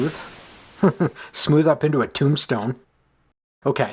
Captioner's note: chuckles